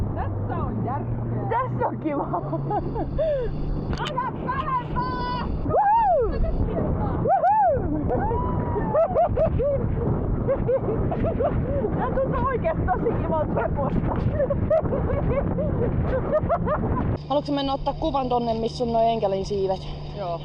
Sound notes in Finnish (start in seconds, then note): 1.8 naurua; 4.0 huuto